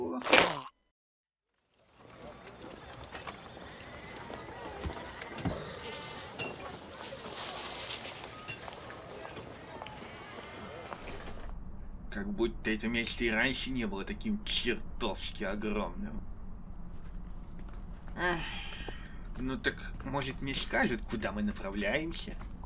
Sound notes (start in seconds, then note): 0.0 chokes; 1.8 city noises